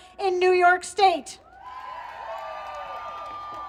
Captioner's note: applause